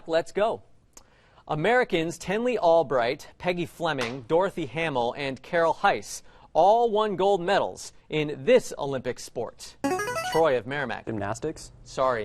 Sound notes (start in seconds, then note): 9.8 player buzzer